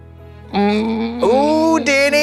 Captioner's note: groans